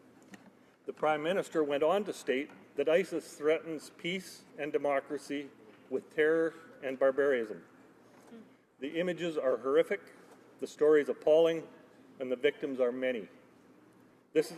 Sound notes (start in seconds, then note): none